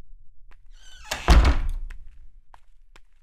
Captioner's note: Door closes